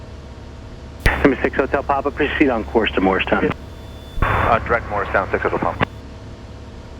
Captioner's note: ATC chatter